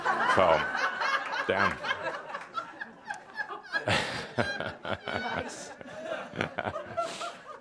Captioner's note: laughter; much laughter, chuckles